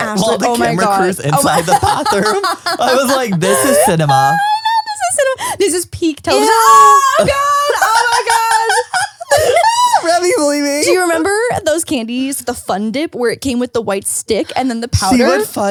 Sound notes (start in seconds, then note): 6.3 all exclaiming